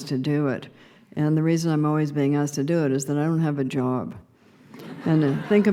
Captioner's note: laughter